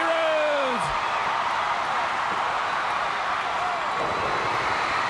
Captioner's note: audience clamoring